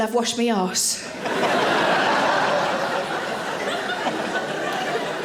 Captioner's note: audience laughing